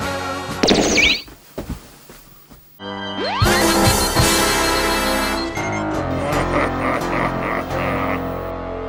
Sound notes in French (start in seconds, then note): 6.1 Rire démoniaque